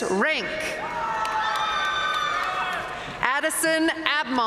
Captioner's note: audience cheering and applauding